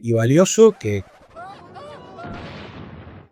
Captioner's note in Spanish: gritos, explosión fuerte